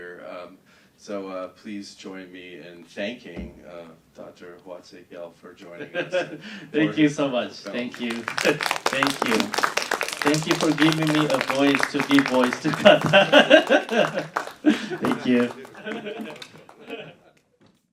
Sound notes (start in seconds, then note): 5.8 laughing; 8.4 applause; 14.1 laughing; 16.5 laughing